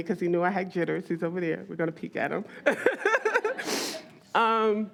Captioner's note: all laugh